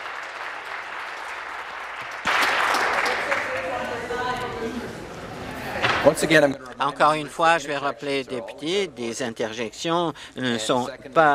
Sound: applause

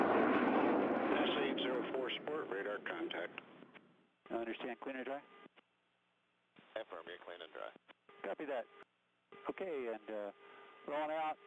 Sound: mission radio chatter

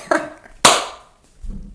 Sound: clap

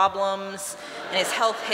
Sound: laughter

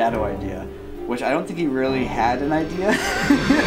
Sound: laugh

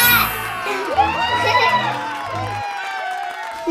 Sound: cheers

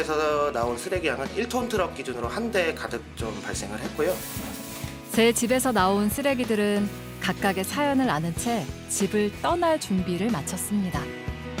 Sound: voiceover

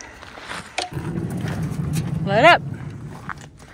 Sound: door whooshing

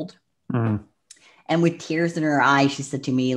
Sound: clicks tongue

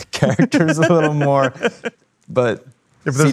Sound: laughing

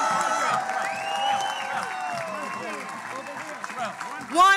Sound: all cheering

